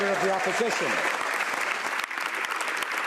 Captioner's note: speaking French